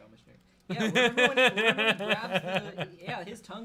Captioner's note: laughs